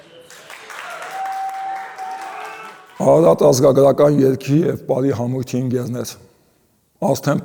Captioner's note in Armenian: ծափահարություն